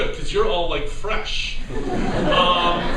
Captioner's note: laughter